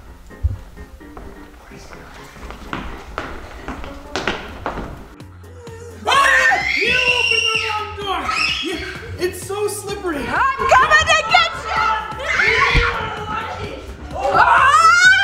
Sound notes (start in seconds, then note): 0.1 snazzy upbeat music; 6.0 screaming; 12.4 screaming